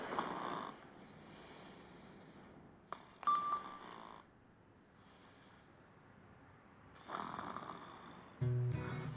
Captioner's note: Maria snoring